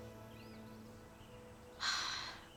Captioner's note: exhales deeply